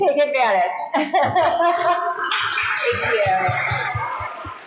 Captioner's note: crowd applauding